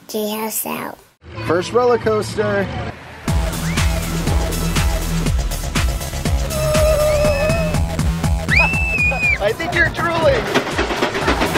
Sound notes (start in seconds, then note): 3.3 upbeat music; 6.5 screaming